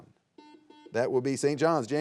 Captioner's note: buzzer beeps